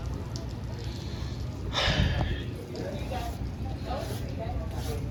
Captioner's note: exhales